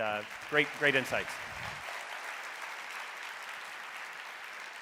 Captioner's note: audience applauding